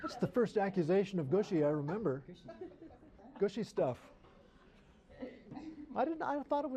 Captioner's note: laughter; laughter